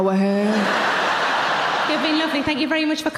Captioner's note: audience laughing